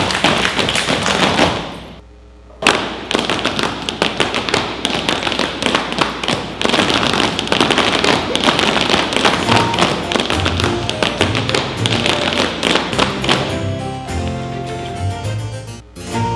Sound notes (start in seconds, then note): 0.0 clapping & stomping; 2.6 stomping